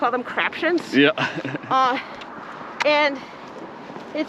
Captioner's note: laughs